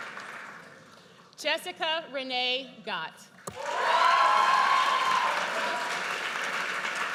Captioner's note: audience cheers